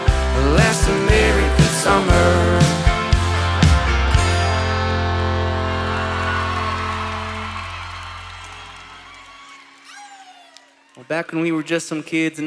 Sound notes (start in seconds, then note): 5.4 applause